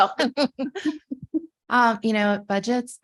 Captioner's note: chuckling